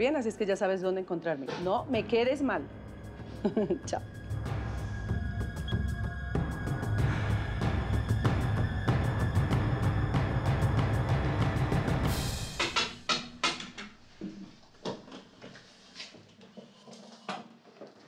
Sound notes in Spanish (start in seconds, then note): 12.3 Toques en la puerta